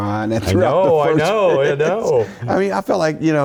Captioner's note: laugh